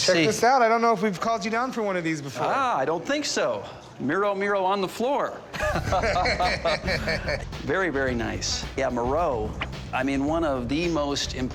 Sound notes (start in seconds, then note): 5.5 laughter